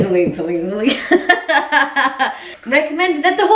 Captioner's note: laughs